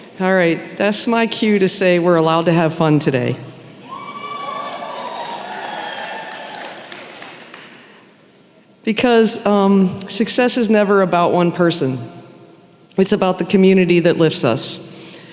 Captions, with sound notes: Alright, that's my cue to say we're allowed to have fun today. [cheering] Because success is never just about one person. It’s about the community that lifts us -